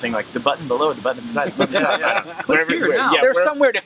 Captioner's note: laughing